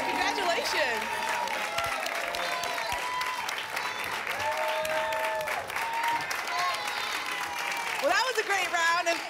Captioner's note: applause and cheering